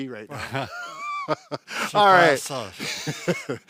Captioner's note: laughs